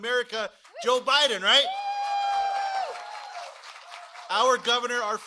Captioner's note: cheering and applause